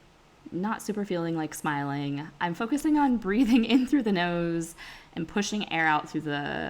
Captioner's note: laughs